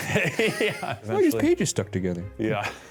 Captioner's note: laughs